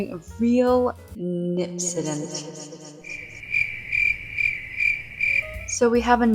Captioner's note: crickets